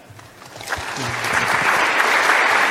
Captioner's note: applause